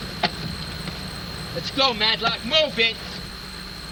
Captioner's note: none